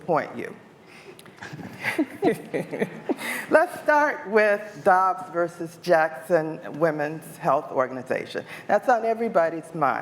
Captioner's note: laughter